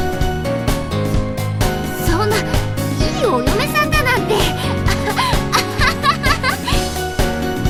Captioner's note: laugh